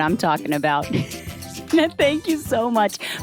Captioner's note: laughs